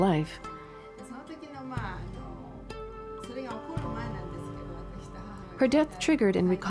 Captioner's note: speaking in foreign language